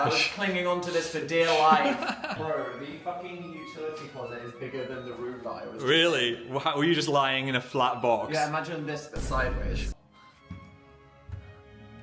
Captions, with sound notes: I was clinging onto this for dear life. (Phil laughs) Bro, the fucking utility closet is bigger than the room that I was just in. - Really? Were you just lying in a flat box? - Yeah, imagine this but sideways.